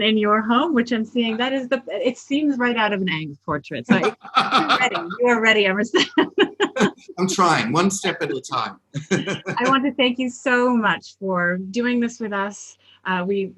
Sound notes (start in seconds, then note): 5.9 both laugh; 9.0 laughs